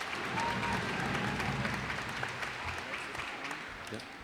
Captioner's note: cheers and applause